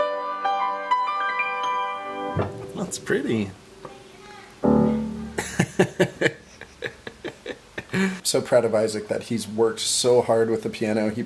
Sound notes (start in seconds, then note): 5.4 laughter